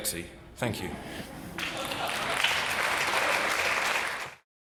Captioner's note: applause